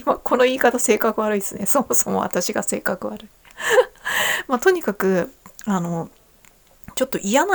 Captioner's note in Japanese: 息をのむ音